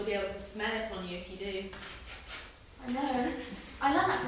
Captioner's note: HAZEL sniffs